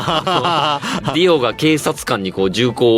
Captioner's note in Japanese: 笑い